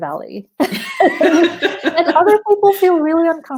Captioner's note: laughing